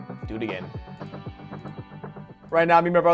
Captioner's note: clicks